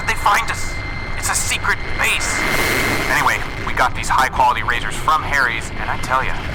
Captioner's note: regular tone